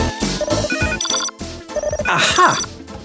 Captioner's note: phone ringing